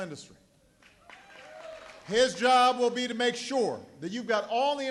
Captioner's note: cheering and applause